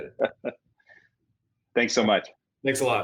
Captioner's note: laughs